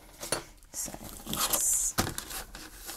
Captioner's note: rustling